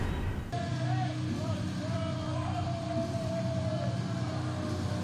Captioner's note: crowd cheering